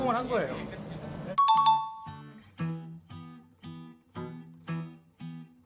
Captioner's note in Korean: 종소리